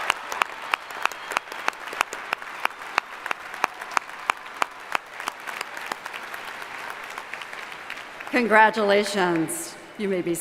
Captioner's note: applause